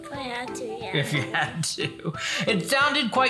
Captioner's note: laughs